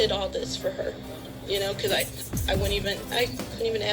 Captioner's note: woman stammering on TV; on TV